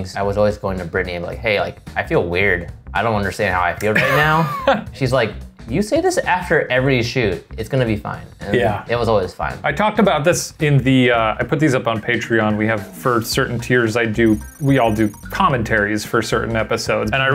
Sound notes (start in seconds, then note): 3.9 laughing